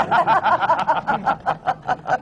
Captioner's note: laughter